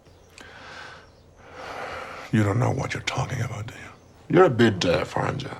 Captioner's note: sigh